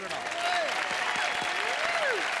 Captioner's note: cheers and applause